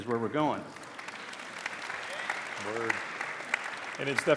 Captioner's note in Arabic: تصفيق